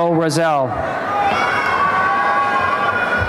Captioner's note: cheering and applause